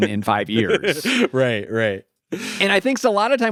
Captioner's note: laughs